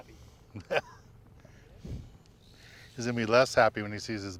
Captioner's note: laughing